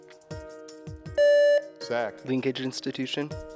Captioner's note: contestant beeping